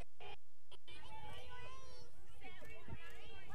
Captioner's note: kids talking